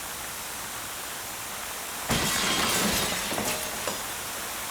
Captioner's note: glass shatters